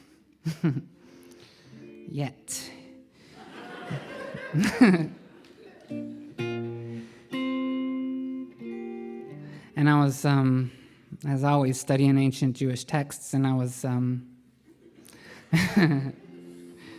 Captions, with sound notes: Yet. [LAUGHTER] And I was always studying ancient Jewish texts.